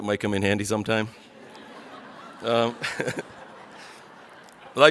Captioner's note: audience laughs